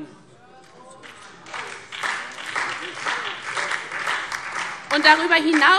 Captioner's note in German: Beifall SPD und DIE LINKE